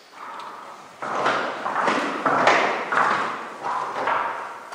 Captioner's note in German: Klappernde Schritte